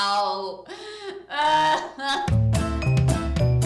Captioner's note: incoherent wailing